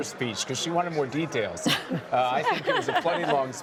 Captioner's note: laughter